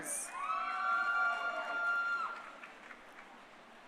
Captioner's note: crowd cheering